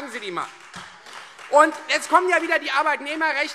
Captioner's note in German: Beifall Freie Demokraten